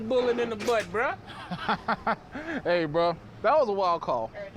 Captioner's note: laughs